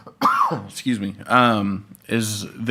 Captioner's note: coughs